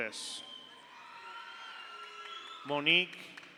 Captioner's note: audience cheers; audience applauds